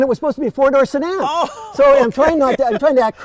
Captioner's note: laughter